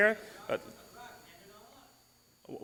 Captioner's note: male attendee mumbles